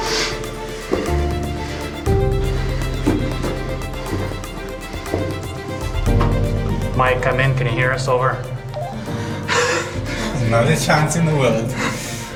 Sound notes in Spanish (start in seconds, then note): 8.8 pitido; 9.5 ríe